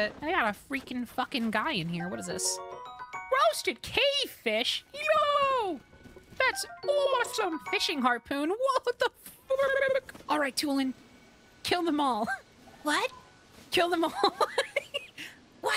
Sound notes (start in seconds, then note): 4.8 trilling; 9.2 trilling; 14.0 laughter